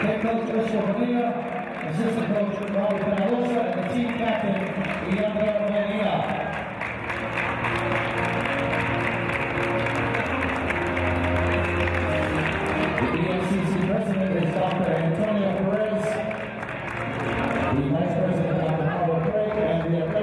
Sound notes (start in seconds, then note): 6.4 applause